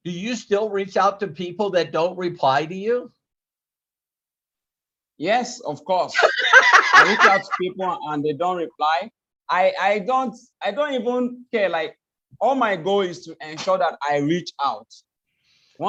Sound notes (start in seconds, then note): 6.1 laughs